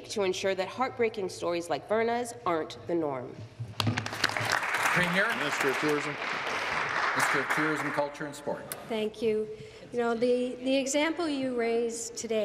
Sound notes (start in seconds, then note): 6.6 applause